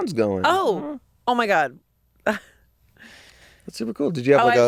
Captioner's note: laughs